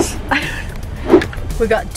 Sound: laughs

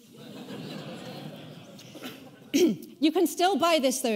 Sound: audience laughing

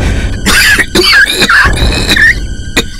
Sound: coughs

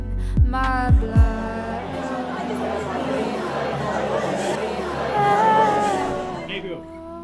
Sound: loud crowd chatter

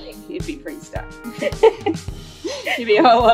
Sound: laughs

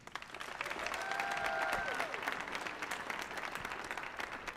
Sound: audience applauding

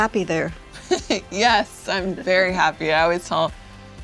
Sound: laughs

